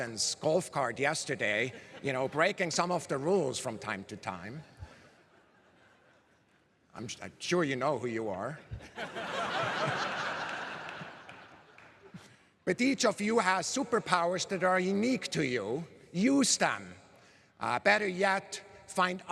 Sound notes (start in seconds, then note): 13.1 laughter